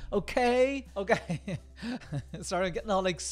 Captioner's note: laughing